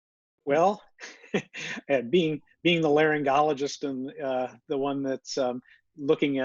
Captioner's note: laughs